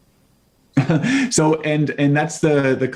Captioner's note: laughing